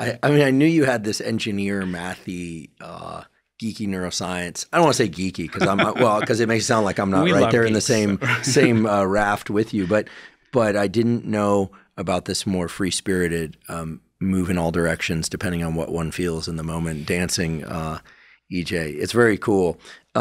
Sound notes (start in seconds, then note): 5.4 laughing; 8.7 chuckles